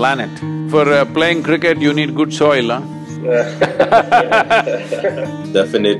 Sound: both laugh

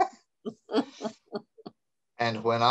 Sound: laughs

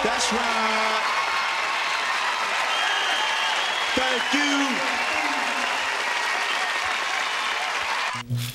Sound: cheering, applauding

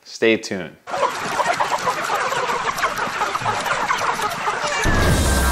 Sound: cacophonous clucking; upbeat electronic music

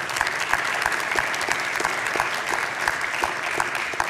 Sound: congregation clapping

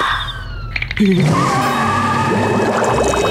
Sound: tires screeching

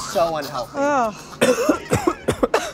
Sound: man coughs

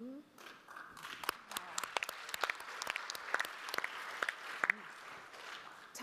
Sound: audience applauding

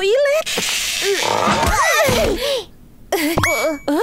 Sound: grunts

